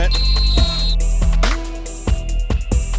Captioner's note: whistle; hip hop music